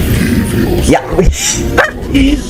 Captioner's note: laughs